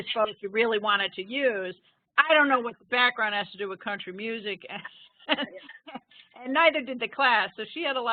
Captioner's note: laughing